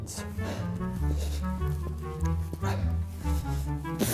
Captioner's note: heavy breathing